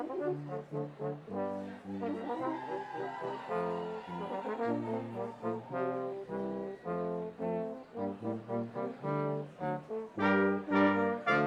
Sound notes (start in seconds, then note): 1.8 audience cheering; 7.2 bright lively music continues